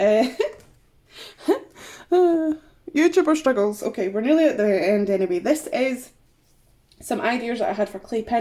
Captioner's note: laughs